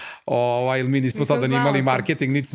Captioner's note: laughs